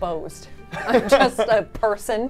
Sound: both laughing

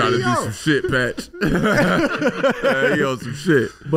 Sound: all laughing

